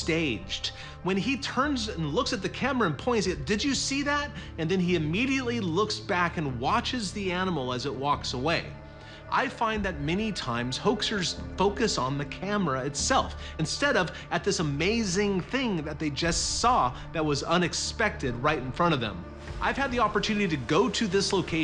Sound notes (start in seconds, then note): none